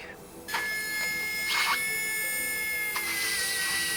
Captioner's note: drill whirs